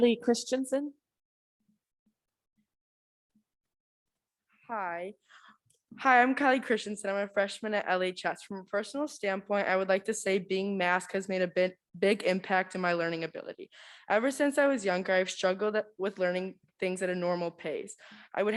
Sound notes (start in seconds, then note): none